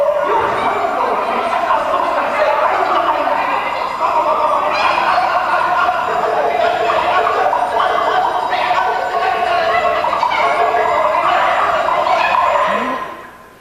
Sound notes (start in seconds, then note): 8.4 the sailor's yelping like a monkey